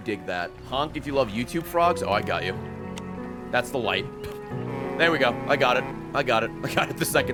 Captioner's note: foghorn